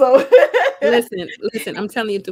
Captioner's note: laughs